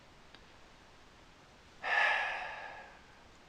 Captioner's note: breath